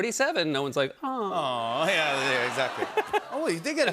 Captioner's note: audience aws, laughs